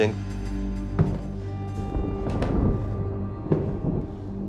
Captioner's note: footsteps